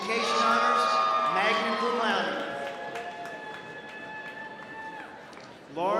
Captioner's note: applause